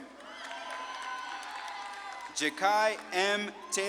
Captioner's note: audience claps and cheers